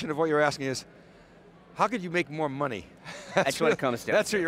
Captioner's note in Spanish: Risas